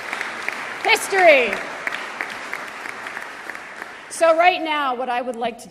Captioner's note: applause